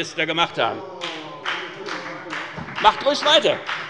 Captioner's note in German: Beifall bei der FDP - Zurufe von der CDU und der SPD: Oh!